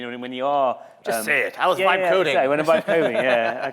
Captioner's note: laughter